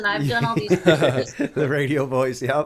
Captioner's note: laughter